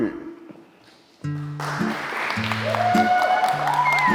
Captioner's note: applause